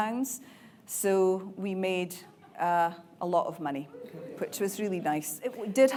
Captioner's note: audience cheering